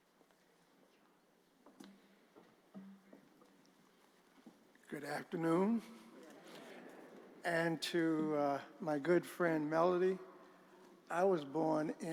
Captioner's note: laughter